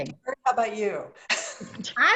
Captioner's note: laughter